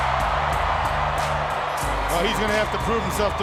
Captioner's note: crowd cheering